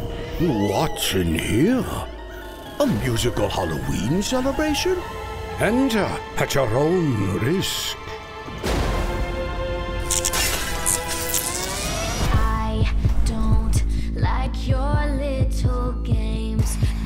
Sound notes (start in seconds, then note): 8.6 thunder crashes; 10.0 glass shatters, electricity crackles